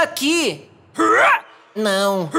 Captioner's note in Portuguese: Soluço